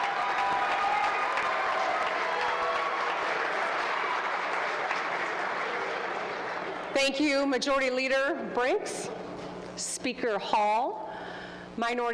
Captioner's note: applause